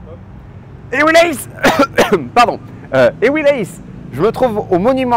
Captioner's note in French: tousse